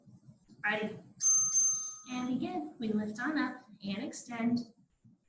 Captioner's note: ding,ding